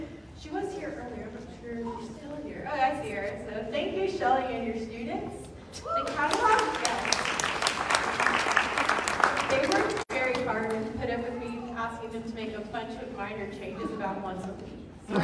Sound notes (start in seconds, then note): 6.0 clapping